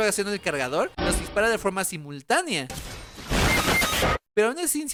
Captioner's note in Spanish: Sonido de muerte de Fortnite